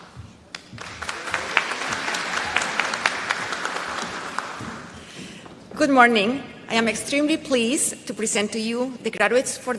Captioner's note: applause